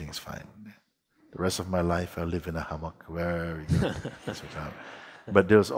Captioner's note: laughter